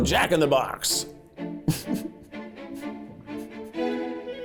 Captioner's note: chuckling